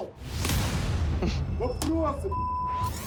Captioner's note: cameraman chuckles